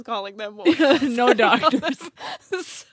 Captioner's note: laughs